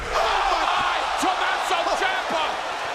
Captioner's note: crowd cheering